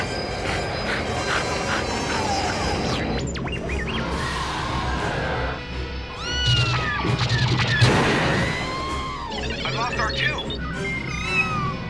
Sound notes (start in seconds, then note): 0.0 panting; 2.7 beeping; 3.9 engines roaring; 6.1 meow; 6.7 lasers firing; 7.8 explosion; 9.1 beeping; 11.0 meow